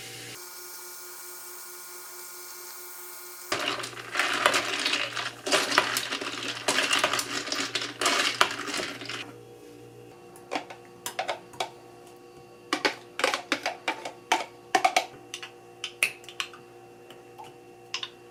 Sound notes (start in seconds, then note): 6.1 stirring